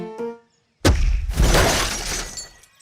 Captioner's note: crashes